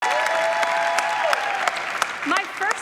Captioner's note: audience applauding